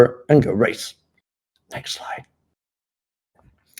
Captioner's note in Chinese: 小声